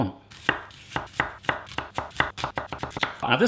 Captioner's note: chopping